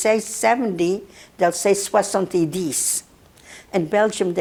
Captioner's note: non-english